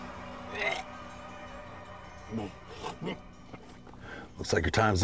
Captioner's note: Richard grunting